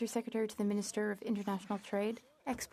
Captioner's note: speaking FRENCH